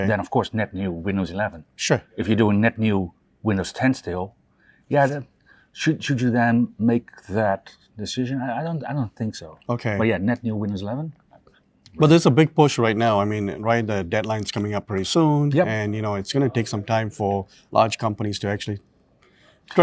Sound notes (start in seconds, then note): none